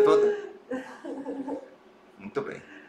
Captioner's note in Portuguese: risos